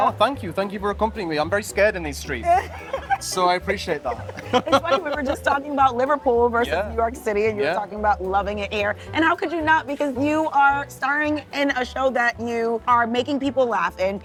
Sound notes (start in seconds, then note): 2.5 laughs; 4.0 chuckles